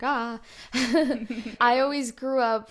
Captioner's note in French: rire